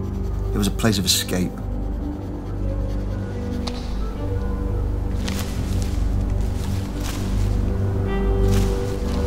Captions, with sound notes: it was a place of escape. (footsteps crunching)